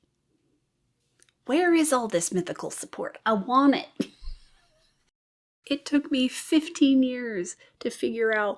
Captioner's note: laughs